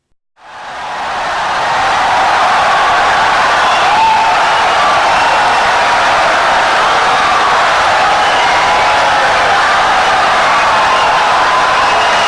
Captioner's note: wild applause and cheering for 17 seconds